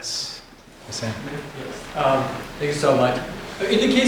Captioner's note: faintly speaking